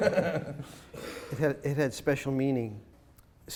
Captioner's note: laughing